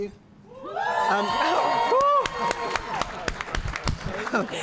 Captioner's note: applause